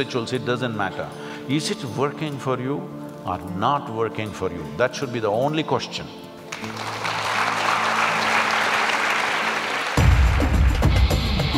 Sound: applauds

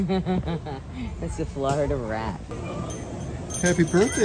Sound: giggles

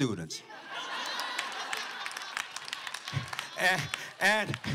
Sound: laughter

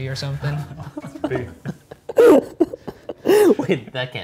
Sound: all laughing

